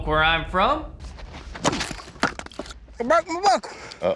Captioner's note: chopping